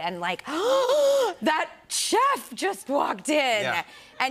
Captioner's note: gasps